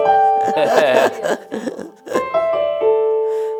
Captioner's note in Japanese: 笑い